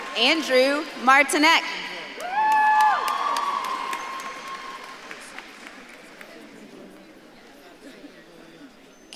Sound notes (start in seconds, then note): 2.4 audience claps and cheers